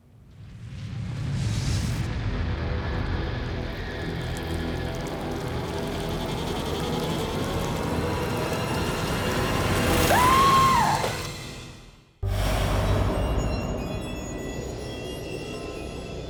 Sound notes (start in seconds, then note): 2.6 wet splashing sounds; 9.9 screaming; 12.7 sinister piano music